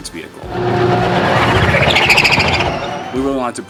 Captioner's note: engine roaring